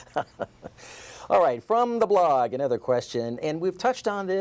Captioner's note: laughter